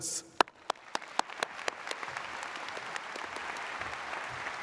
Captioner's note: audience applauds